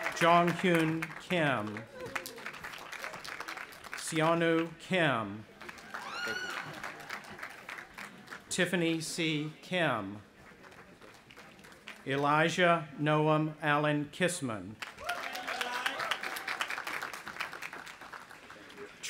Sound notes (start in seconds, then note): 2.6 audience applauding; 5.6 cheering; 14.8 audience applauding and cheering